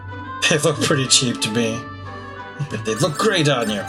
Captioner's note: laughs